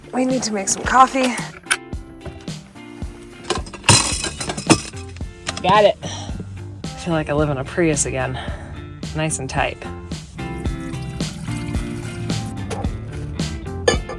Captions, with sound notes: All right, we need to make some coffee. (pot clattering) Got it. I feel like I live in a Prius again. Nice and tight. (upbeat music)